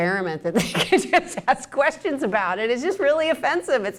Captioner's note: laughs